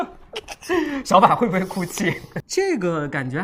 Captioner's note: laughs